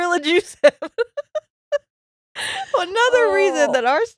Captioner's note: laughing